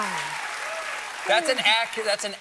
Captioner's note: cheers and applause